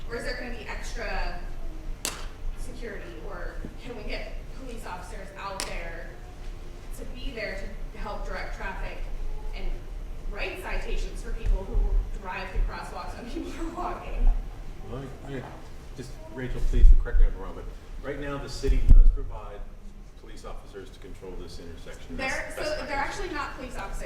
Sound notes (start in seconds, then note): 14.7 murmurs